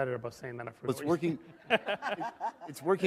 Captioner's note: laughter